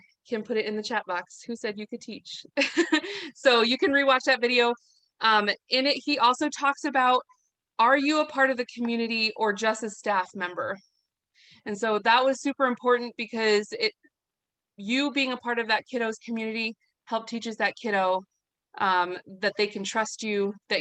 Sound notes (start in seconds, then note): 2.6 chuckles